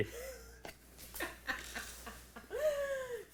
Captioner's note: laughing